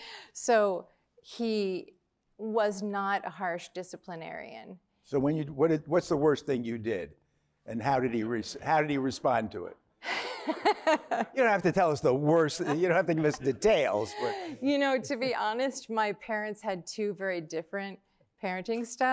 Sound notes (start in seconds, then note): 10.1 laughter